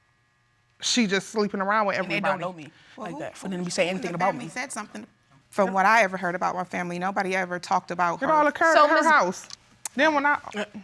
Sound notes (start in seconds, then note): none